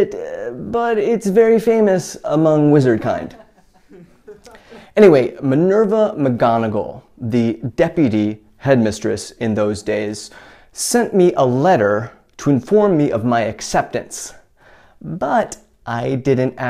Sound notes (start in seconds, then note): 3.3 chuckle